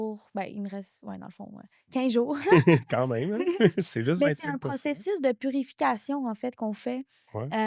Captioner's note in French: rires